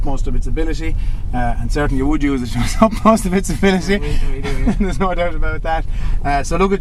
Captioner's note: laughter